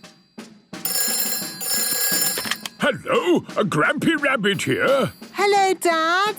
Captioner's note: phone ringing